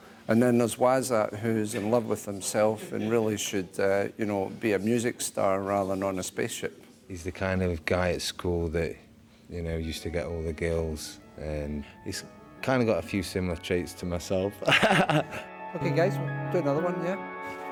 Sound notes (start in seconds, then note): 14.6 laughs